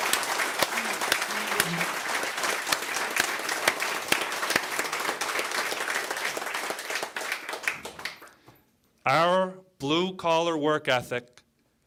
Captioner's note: cheering